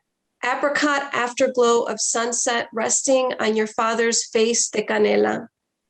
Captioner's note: foreign language